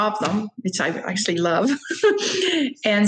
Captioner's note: laughing